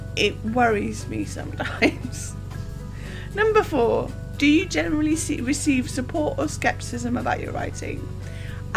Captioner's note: laughs